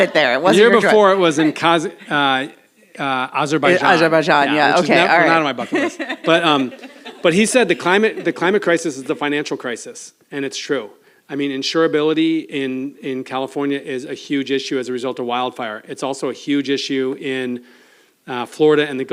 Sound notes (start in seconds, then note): 4.6 laughs